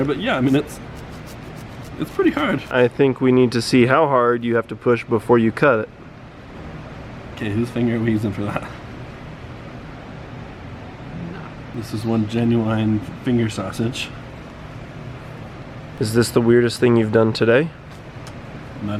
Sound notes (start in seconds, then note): 0.2 knife scratches; 10.7 chuckles